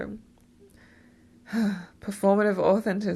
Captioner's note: sigh